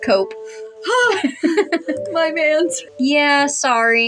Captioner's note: laugh